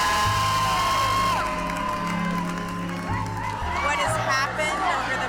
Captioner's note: crowd cheering